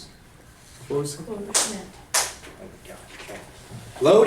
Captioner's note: voiceover